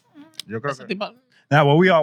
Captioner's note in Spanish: Hablando en idioma extranjero